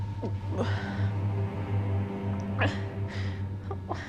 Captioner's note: dramatic music; Maggie moaning